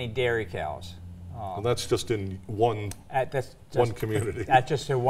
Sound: laughs

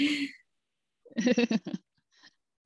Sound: laughter

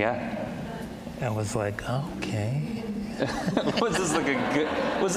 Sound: all laughing

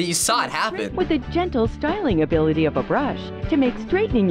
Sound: voice-over

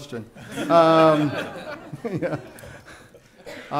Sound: laughing

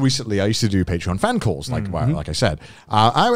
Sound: all laughing

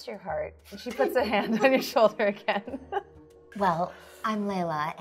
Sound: laughing

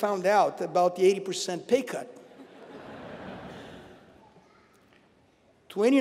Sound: laugh

